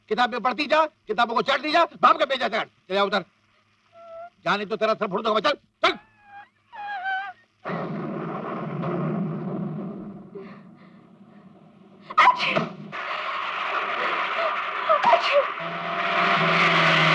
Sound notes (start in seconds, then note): 12.1 sneezing